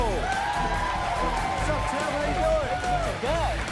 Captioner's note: cheers and applause